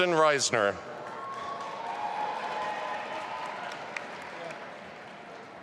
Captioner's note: audience applauding